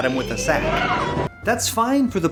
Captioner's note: characters yell